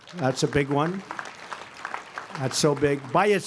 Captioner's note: applause